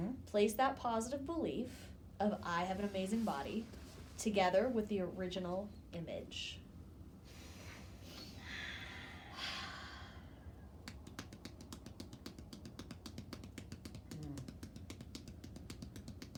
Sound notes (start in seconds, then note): 8.8 breathing deeply; 10.8 hands tapping